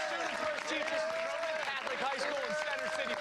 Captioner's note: cheers and applause